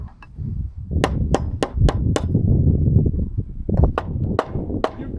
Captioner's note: hammers tapping